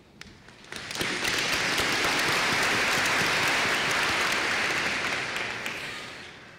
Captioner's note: applause